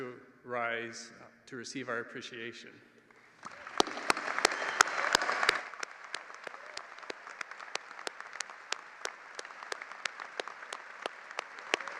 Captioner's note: applause